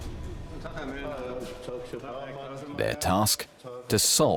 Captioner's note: men speaking German